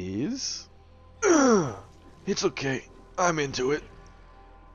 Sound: pain sound

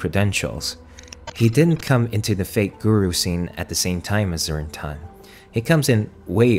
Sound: glitch sound effects

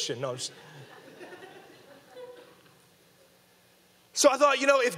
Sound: audience laughing

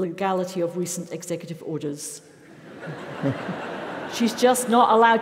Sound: laugh

